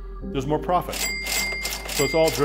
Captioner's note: cash register dings